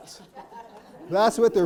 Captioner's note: audience laughing